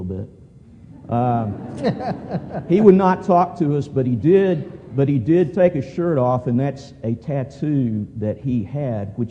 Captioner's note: laughter